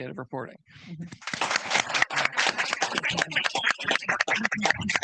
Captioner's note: audience clapping